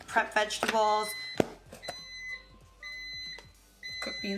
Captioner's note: microwave beeps